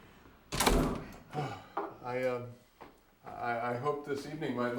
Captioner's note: sighs